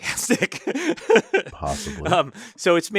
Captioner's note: laugh